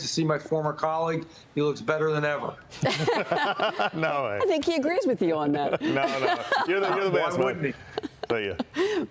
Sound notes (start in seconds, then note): 7.3 laughter